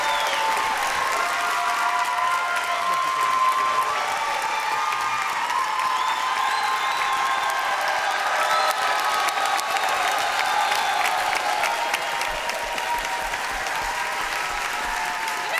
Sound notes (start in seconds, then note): 0.0 applause